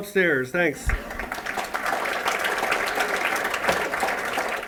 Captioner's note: applause